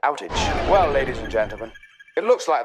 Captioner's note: electricity zaps